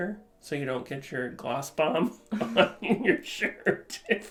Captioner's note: laughing